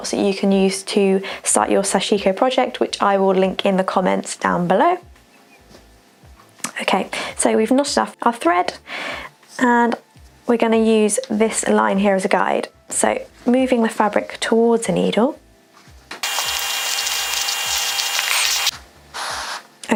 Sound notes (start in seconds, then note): 16.1 static humming